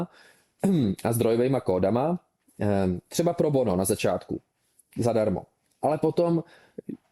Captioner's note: clears throat